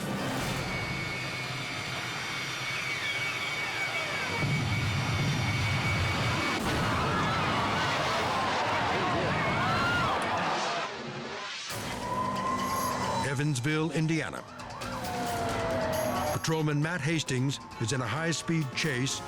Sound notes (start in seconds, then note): 0.2 engines whine; 4.4 explosion thundering; 6.2 crash rumbling; 6.2 crowd screams; 11.3 fast-paced music; 11.8 sirens wail